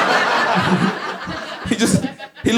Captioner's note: laughs